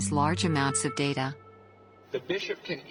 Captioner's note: soundbite of archived recording